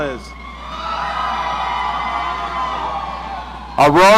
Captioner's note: audience cheering